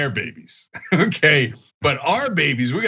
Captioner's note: laugh